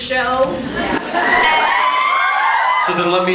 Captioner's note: laughs, cheers